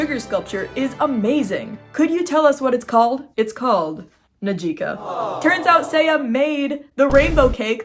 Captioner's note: triumphant music; awww